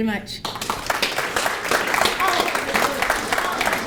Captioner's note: applause